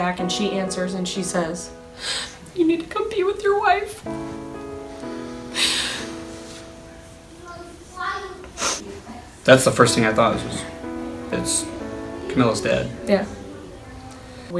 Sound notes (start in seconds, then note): 2.6 crying; 5.2 gentle music